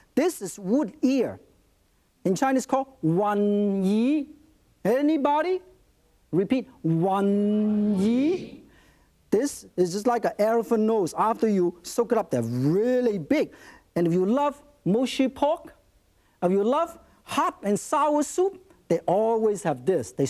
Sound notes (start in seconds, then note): 2.9 speaks in Chinese; 7.2 audience repeats in Chinese